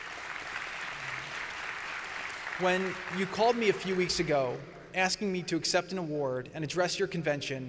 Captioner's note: applause